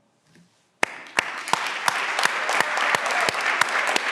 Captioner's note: everyone claps